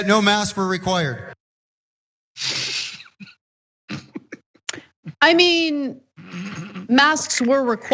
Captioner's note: laugh